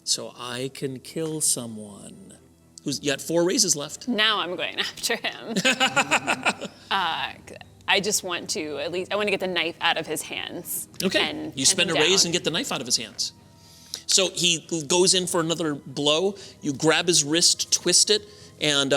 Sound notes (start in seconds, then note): 5.5 laughter